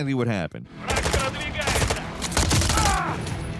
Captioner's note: shooter speaking in foreign language; character groaning